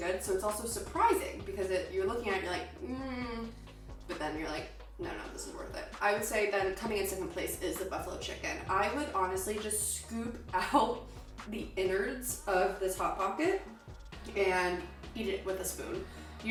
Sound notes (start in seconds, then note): 2.8 groans